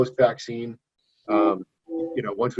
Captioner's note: beeping